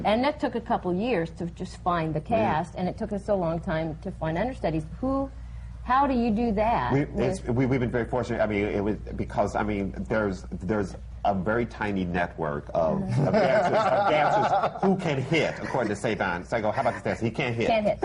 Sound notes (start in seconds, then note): 13.1 laughter